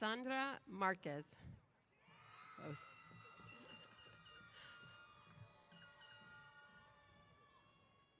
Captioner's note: cheers